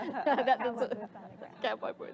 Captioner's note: laughter